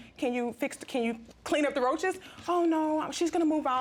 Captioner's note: imitating reginald